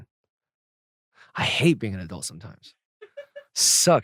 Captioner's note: laughs